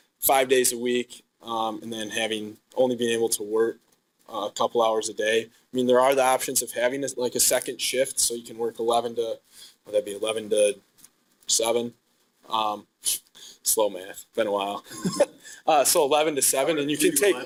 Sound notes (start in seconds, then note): 14.8 laughing